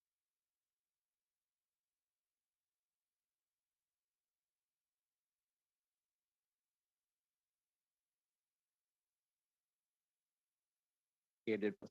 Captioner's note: silence